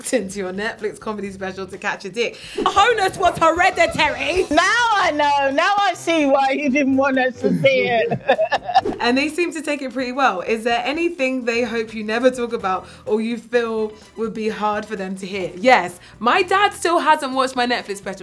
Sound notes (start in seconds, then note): 7.4 mother laughs